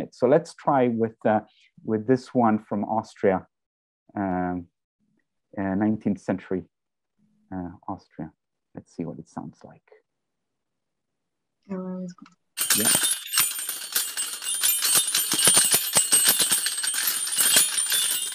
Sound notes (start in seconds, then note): 12.6 ringing